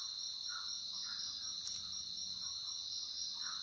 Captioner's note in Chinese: 好像咬的一聲